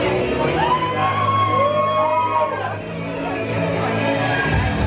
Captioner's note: crowd cheering